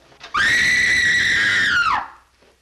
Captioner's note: screams!